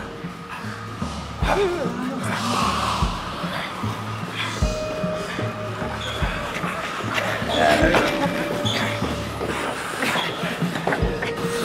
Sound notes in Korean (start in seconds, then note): 1.5 겁먹은 소리